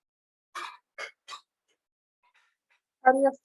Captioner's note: metal clanging